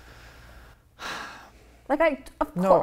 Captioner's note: sighs